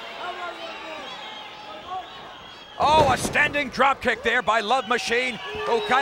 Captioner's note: applause